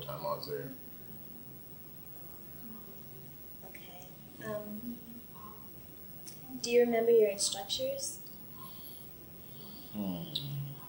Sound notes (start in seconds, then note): none